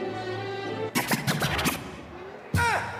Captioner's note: record scratching